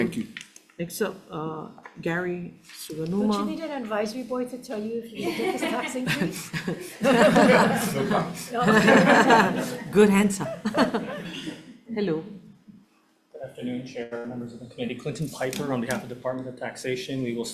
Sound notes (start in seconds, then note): 7.0 everyone laughing; 9.3 everyone laughs; 11.3 laughs